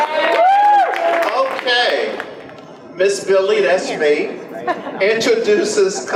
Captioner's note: audience applause; audience laughs